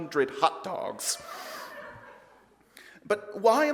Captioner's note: audience laughs